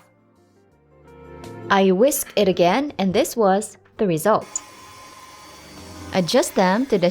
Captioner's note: mixer running